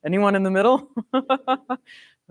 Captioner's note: laughs